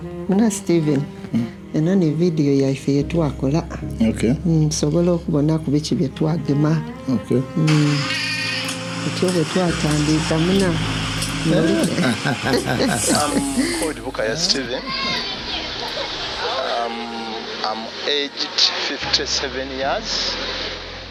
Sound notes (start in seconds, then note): 0.2 speaking in Lusoga; 7.9 goats bleating; 9.2 speaking in Lusoga